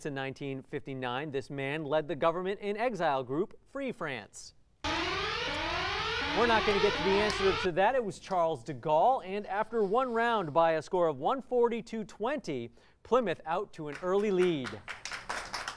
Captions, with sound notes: this man led the government-in-exile Free France. [alarm] We're not going to get to the answer to that. It was Charles de Gaulle. And after one round, by a score of 140 to 20, Plymouth out to an early lead. [applause]